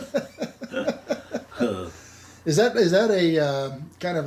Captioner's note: both laughing